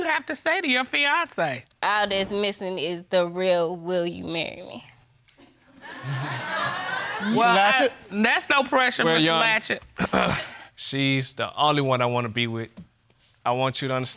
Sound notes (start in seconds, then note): 5.8 audience laughing; 10.0 clears throat